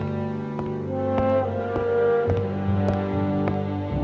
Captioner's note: heavy footprints